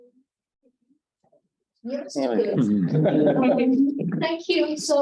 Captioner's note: audience laughing